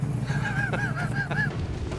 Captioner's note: laughs